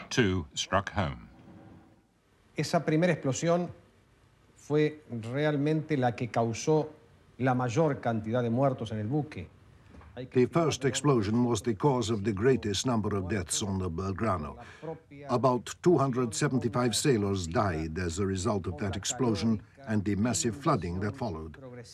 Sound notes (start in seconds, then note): 2.5 man speaking in foreign language